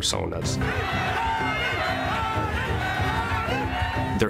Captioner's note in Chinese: 觀眾為Manny歡呼